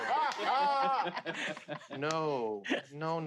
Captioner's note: players laughing